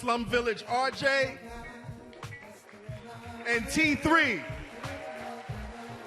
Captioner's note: audience applauding